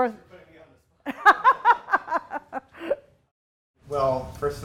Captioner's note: laughs loudly